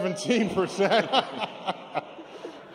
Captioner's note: laughter